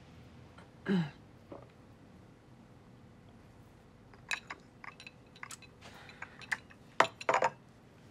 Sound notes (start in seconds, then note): 0.8 clears throat; 1.7 gulps